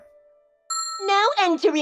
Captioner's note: ding!